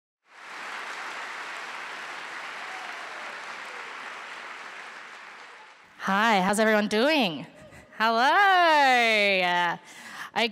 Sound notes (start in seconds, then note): 0.2 applause